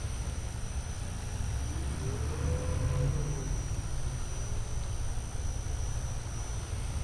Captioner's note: traffic humming faintly; fan buzzing continues